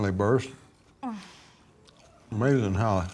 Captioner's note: Ainsley groans